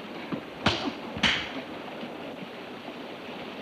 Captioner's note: hand smacks